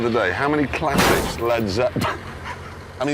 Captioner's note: crash